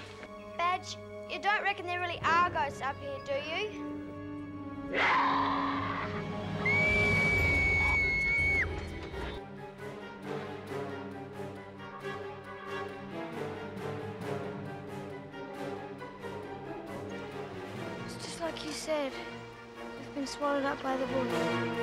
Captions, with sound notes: Badge, you don't really reckon there are ghosts up here, do you? Raaa! *scream* It's just like you said. We've been swallowed up by the woods.